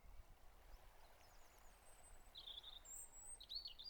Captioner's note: birdsong